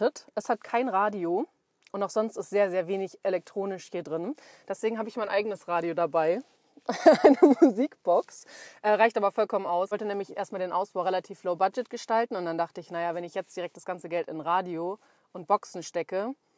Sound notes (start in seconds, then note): 6.9 haha